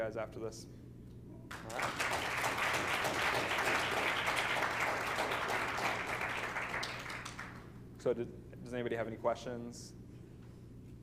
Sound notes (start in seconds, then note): 1.5 applause